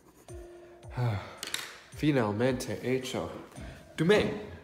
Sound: sighs

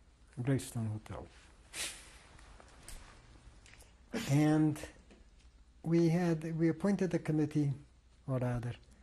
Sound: pauses for 3 seconds

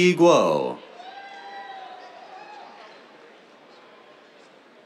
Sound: cheers

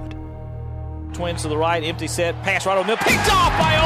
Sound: voiceover

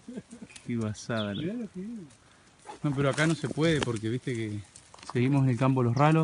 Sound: laughing; speaks in a foreign language

